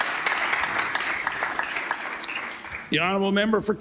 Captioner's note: applause